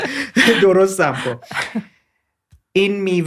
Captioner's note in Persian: خنده